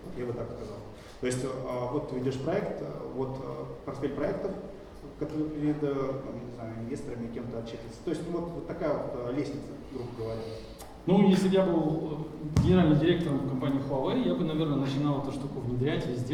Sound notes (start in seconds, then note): 11.2 speaking in foreign language